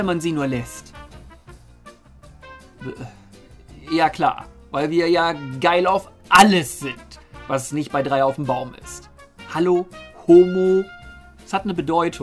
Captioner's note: sigh